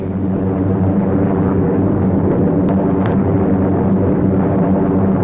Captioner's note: plane engines humming